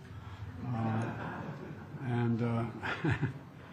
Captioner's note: laughter